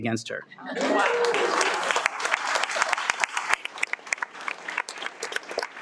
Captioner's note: audience cheers and applauds